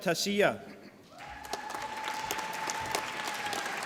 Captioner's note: applause